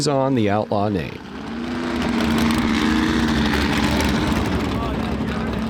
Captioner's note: buggy revving